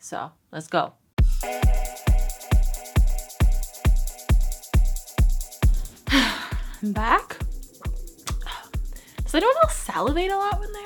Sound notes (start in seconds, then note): 1.4 upbeat music; 6.0 sighs